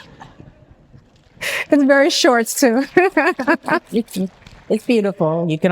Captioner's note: laughs